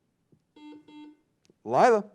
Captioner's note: buzzing sound